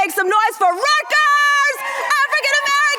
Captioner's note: screams